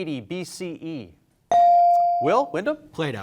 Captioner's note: bell rings